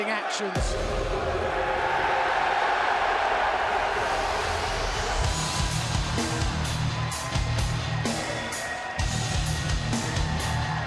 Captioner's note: crowd cheering